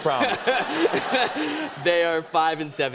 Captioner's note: laughter